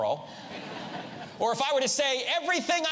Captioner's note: audience laughs